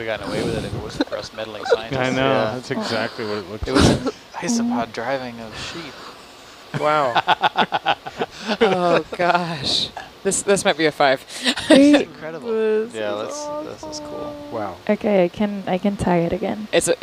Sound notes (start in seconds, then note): 2.5 laughter; 6.7 laughter